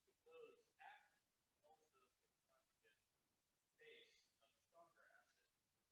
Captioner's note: student speaking faintly